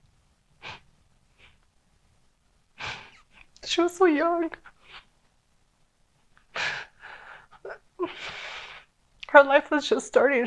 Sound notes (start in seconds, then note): 2.8 sniffles